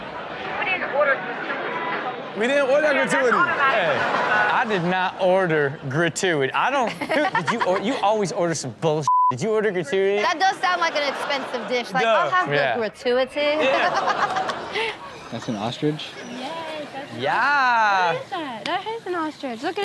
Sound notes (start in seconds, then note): 9.0 beep; 13.5 Chanel laughs